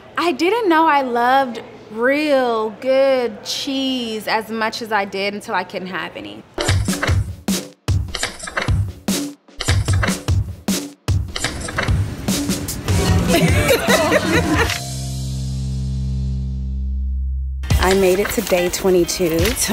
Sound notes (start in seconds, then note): 6.6 mellow drum music; 12.9 laughing